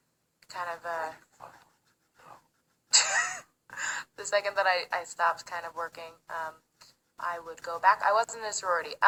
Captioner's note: laughs